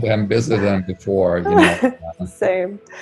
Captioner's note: giggles